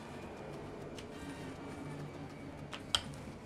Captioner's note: airplane